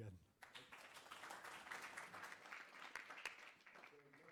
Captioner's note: applause